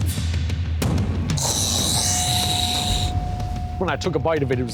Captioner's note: retches